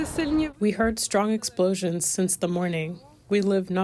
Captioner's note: through translator